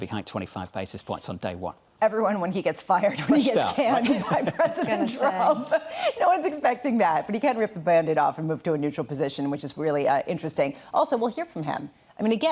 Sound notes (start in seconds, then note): 3.6 laughter